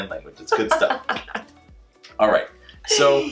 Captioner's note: laughs